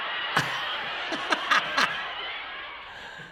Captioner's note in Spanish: Audiencia en el estudio se ríe a carcajadas; ríe